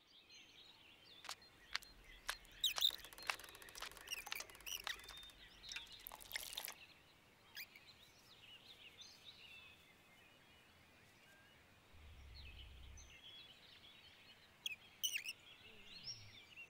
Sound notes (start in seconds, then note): 1.6 sloshing water; 1.6 footsteps; 6.3 sprinkling water; 13.6 nature sounds